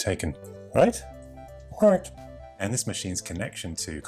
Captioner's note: puppy speaking